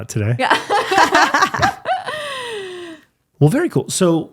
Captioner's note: both laughing